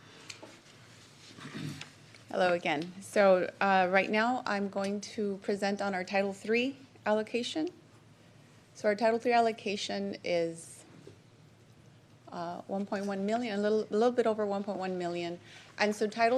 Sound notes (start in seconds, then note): 1.4 clears throat